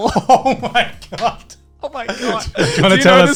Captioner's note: laughing